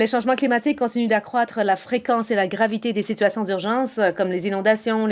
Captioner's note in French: voix de l'interprète